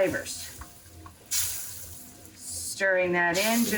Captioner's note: pan sizzling